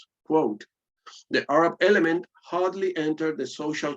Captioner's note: none